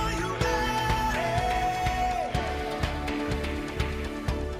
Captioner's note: applause